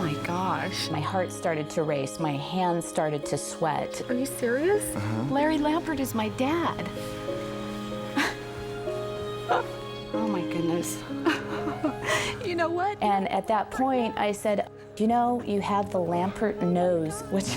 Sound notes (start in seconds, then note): 7.3 inspirational music; 11.1 chuckles